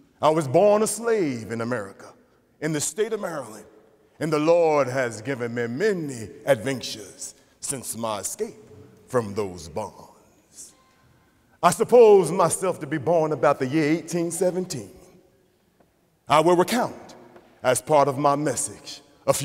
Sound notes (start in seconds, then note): none